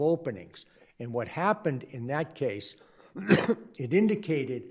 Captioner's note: coughs